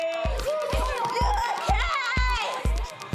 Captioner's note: shouting in panic